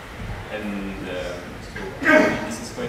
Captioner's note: audience member sneezes